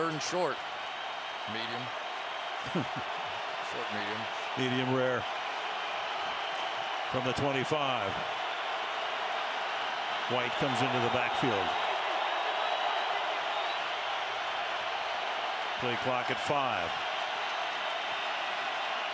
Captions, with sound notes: to set up a third and short. Medium. [laughs] Medium rare. From the 25, White comes into the backfield. Play block at five.